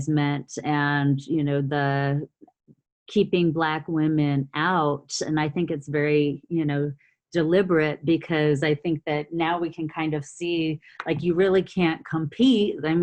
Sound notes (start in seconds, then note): none